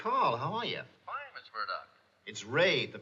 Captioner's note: on phone